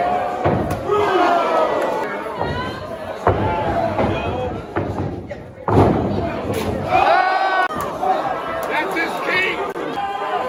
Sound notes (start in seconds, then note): 0.0 crowd cheers; 6.0 crowd cheers